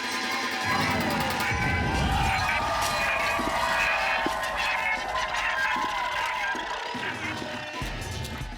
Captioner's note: cheering